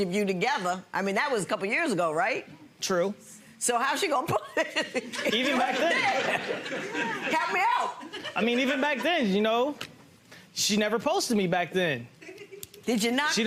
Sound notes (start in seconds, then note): 4.7 audience laughs